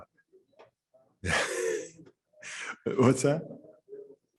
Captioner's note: chuckles